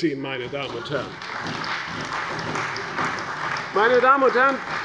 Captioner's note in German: Beifall bei der CDU